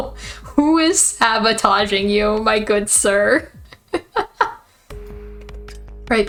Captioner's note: laughs